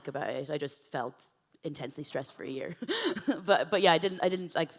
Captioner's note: laughs